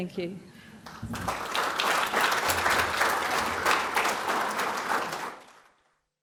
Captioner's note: applause